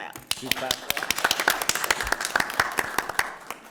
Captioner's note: all clapping